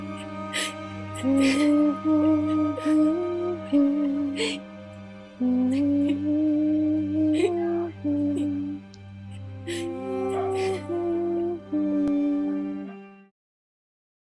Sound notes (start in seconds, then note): 0.0 Avila crying; 1.2 Rory humming softly